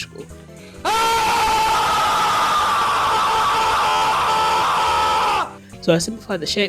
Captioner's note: Keemstar screaming very loudly